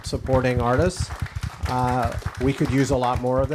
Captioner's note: audience applauding